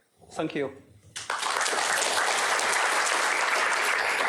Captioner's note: applause